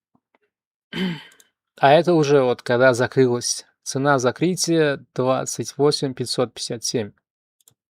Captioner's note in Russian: откашливается